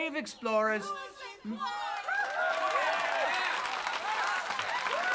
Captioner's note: crowd; loud cheering